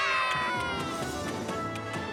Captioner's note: all cheering